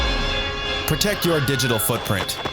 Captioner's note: tense suspenseful music; speaker screams; footsteps banging